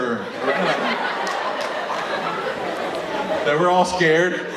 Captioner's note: audience laughing